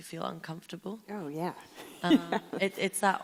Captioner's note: laughing